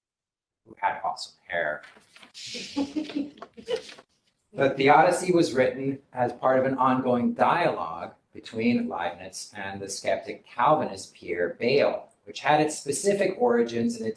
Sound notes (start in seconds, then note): 2.5 laughter